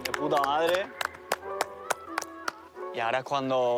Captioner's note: applause